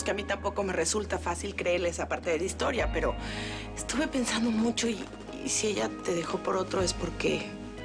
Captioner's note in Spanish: none